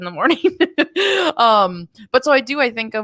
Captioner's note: chuckles